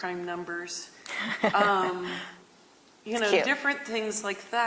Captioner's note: chuckles